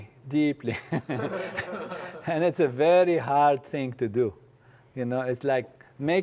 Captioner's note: laugh